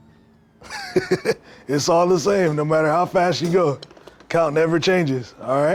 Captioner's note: chuckles